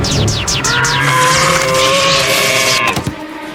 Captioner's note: screaming